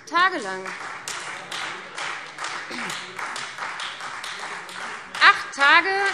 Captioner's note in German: Beifall Freie Demokraten